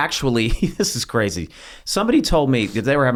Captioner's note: laughs